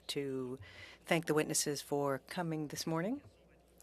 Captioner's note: speaking French